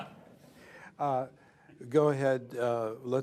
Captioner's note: laughter